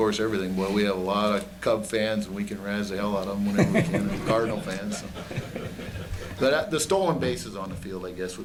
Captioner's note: laughter